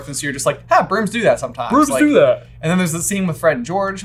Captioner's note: yawning